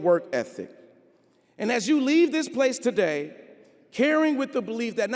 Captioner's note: none